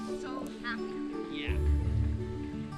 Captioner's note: faintly speaking; bright music continues